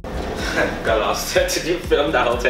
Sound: laughs

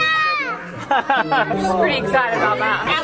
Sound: chuckles

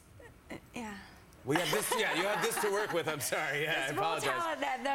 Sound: laughter

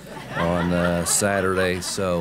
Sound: laughter

